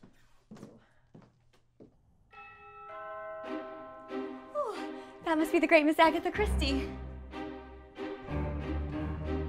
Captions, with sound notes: *doorbell* Oh! That must be the great Miss Agatha Christie!